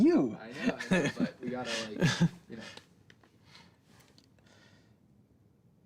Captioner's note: chuckles